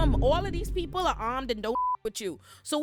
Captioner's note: beep